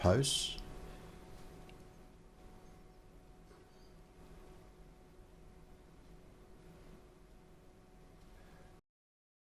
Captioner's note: silence